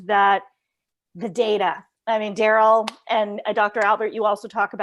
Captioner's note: claps